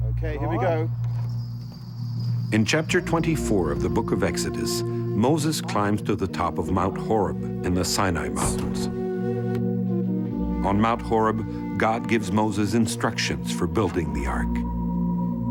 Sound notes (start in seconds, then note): 7.8 door slamming